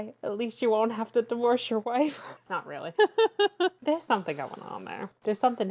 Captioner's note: laughs